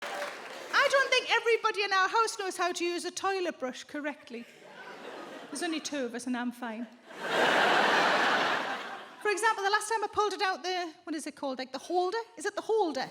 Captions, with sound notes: I don't think everybody in our house knows how to use a toilet brush correctly. There's only two of us, and I'm fine. [audience laughs] For example, the last time I pulled it out, the-- what is it called? Like, the holder? Is it the holder?